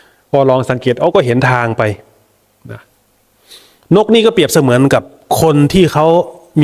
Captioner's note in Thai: เสียงสูดหายใจ